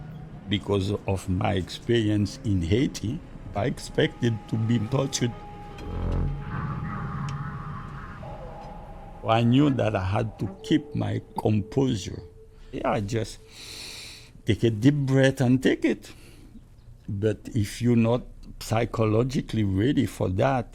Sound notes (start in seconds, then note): 13.4 inhales